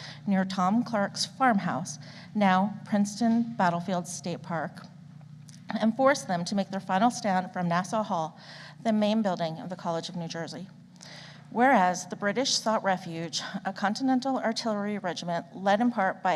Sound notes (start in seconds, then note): none